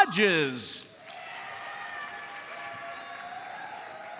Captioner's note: audience cheers and applauds